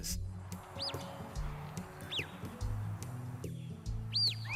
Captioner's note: whistling